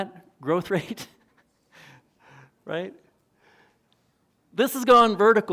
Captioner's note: chuckles